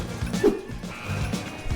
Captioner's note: whoosh